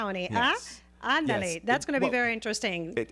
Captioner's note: Hablando ingl\s